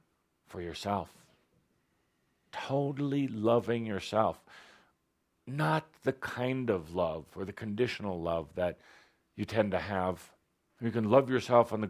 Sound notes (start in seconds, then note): none